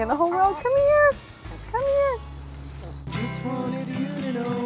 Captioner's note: bell chimes